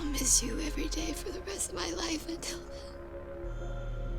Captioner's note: sobs